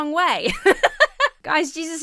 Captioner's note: laughs